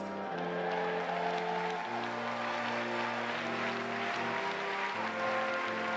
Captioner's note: applause